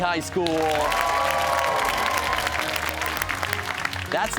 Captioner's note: cheers and applause